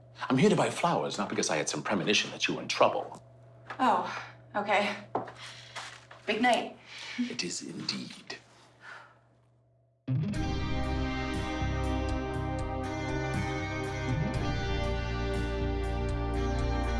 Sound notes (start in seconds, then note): 8.8 Allison sighs; 10.1 soulful rock music